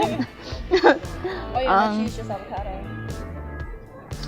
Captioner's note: laughs